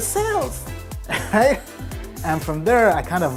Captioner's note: laughing